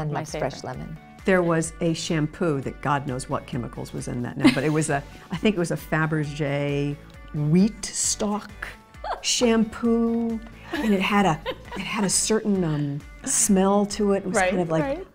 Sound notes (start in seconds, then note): 9.0 Jessica chuckles